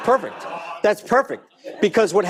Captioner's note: audience laughing